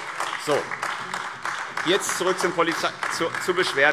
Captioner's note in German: Beifall AfD